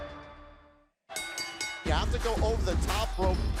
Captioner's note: bell ringing